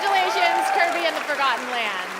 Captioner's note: cheers and applause